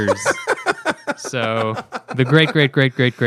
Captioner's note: laughter